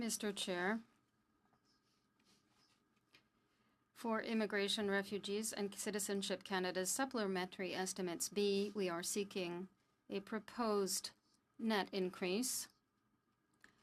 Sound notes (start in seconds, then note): 2.9 speaking French